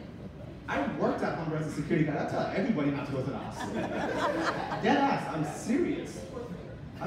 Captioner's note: audience laughter